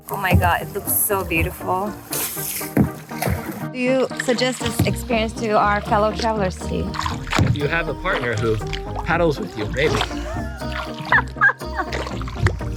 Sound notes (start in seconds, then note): 10.0 laughing